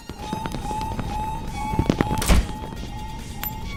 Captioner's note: fire alarm